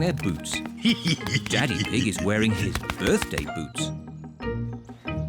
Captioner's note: laughs